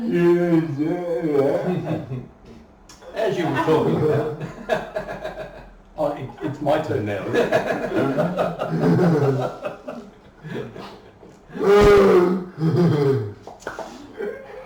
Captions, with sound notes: As you were talking about... - Oh, it is my turn now, is it? [laughing]